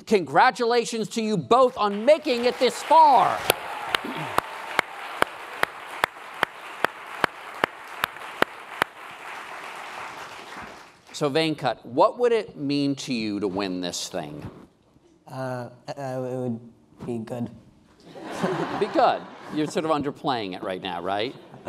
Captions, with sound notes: Congratulations on to you both on making it this far. (applause) So Venkat, what would it mean to you to win this thing? - That would be good. (laughing) - Be good, you're underplaying it right now, right?